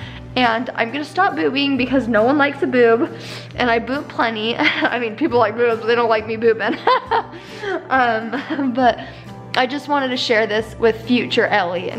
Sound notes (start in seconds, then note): 6.6 laughs